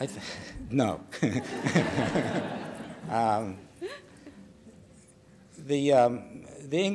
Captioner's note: laughter